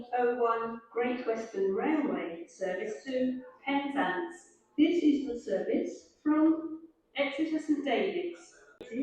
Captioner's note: Great Western Railway train announcements in background